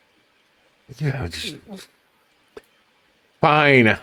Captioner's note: grumbling sounds